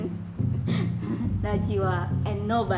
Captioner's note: laughs